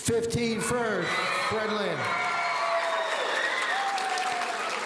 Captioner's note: audience cheering